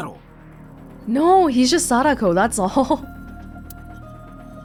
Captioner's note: chuckles